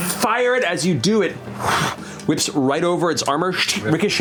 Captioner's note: blows